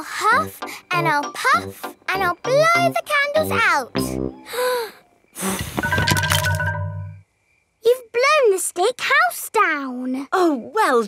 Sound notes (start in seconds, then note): 5.3 blowing